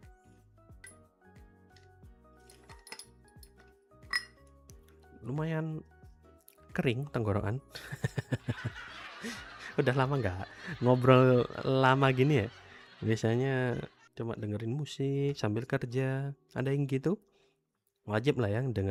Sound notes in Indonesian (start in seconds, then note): 7.8 tertawa